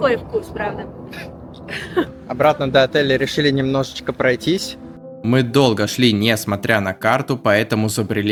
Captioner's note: laughs